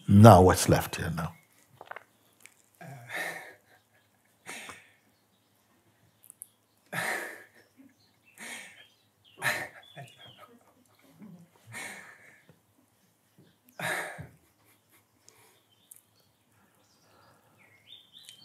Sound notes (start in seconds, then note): 2.9 lacht